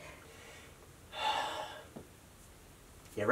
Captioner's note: sigh